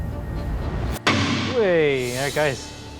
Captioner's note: bang!